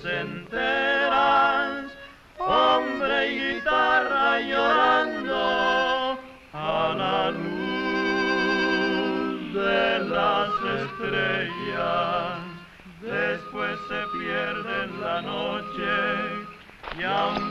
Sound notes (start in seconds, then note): none